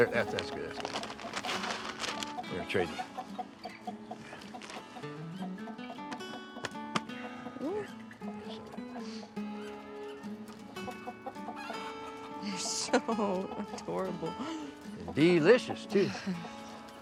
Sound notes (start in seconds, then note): 3.7 chicken clucking; 5.2 gentle bright music